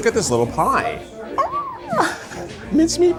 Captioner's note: people chattering; chuckles